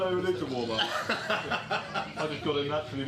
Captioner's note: laughs